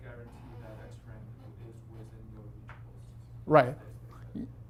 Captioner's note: faintly speaking